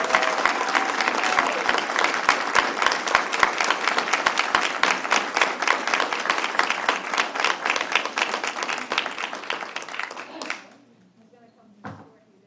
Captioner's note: applause